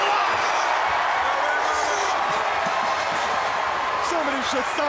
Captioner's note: crowd cheering